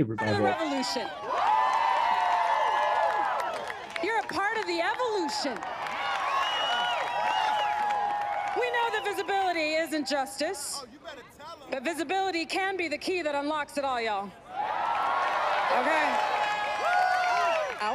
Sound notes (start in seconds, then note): 2.1 cheering